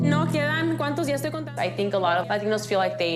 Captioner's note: speaking Spanish